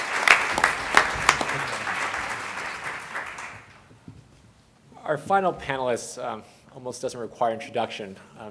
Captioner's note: applause